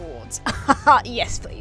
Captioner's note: laughs haughtily